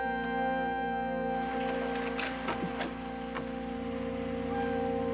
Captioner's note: shower running